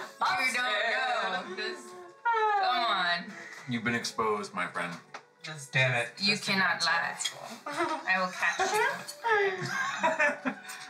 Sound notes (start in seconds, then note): 7.2 Vivi mutters to herself; 9.3 laughter